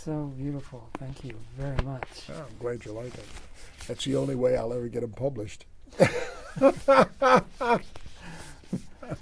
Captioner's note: laughs